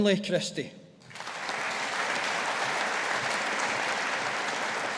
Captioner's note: audience applauding